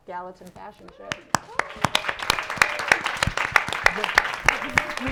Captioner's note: audience applauding